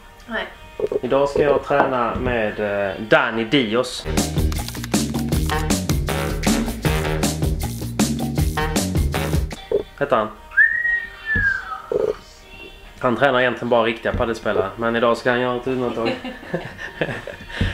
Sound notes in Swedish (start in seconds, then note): 10.5 busvisslar